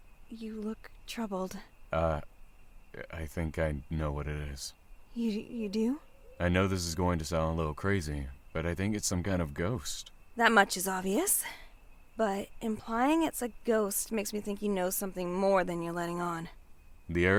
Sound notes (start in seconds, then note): none